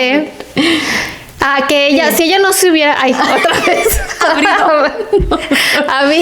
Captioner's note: laughs